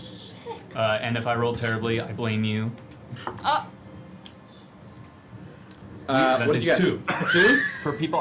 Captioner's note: gasps